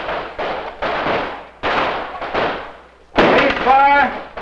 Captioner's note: guns shooting